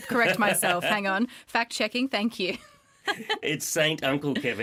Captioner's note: laughter